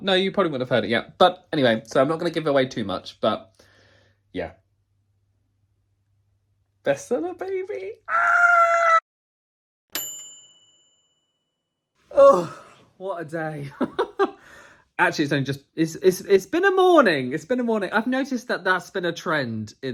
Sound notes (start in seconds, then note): 9.9 bright bell dinging; 14.4 laughs